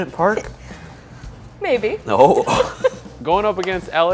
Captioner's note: laughs